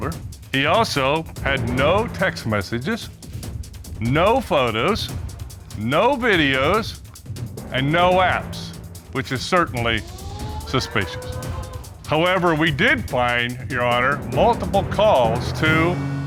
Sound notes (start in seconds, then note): 9.8 audience exclaiming